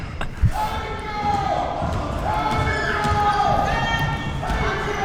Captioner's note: laughing; spectators shouting